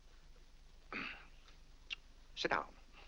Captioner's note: clears throat